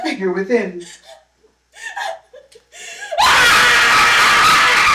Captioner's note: panicked whimpering; scream of terror; scream of surprise; two screams of surprise; laughter